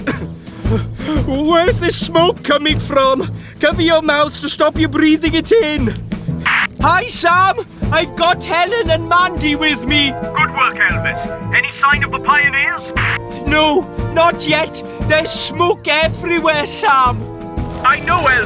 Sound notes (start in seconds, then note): 7.1 on Walkie-Talkie